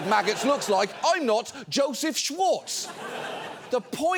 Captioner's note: studio audience laughing